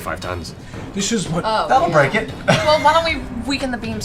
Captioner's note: laughs